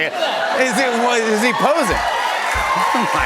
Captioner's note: cheers and applause